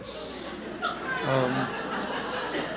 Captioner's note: laughter